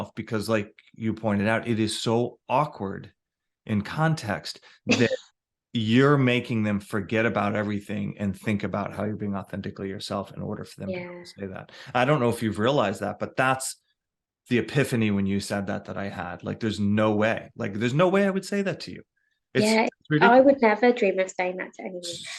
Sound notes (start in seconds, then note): 4.9 chortles